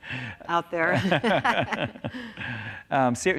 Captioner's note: laughter